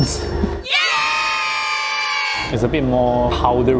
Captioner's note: cheering